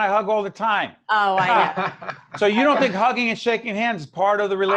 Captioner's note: laughing